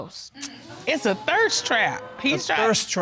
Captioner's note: audience exclaiming